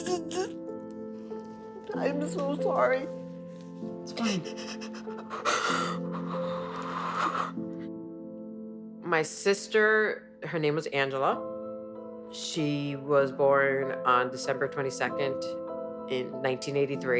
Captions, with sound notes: - I am so sorry. - It's fine. [sobbing and breathing heavily] - My sister, her name was Angela. She was born on December 22nd in 1983.